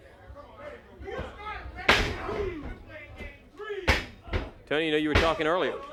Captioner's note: crowd chatter